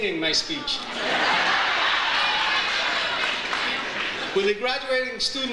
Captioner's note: audience laughs